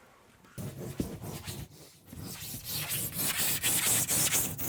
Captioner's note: foam scraping